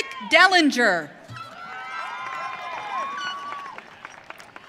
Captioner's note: audience cheering